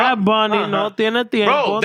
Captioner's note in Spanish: Hablando en idioma extranjero